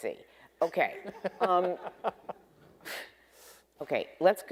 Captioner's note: debaters laughing